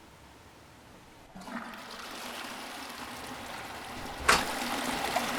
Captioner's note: toilet flushing in another room